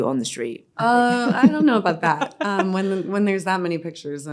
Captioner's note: laughing